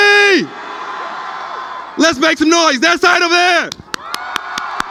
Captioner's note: cheering